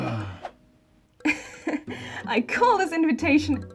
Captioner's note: laughs